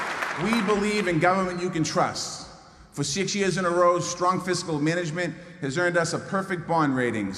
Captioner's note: applause